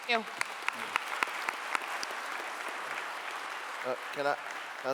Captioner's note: clapping